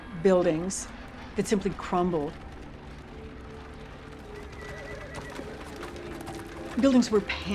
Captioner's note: horse whinnies